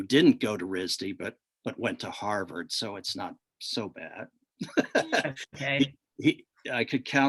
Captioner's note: laughs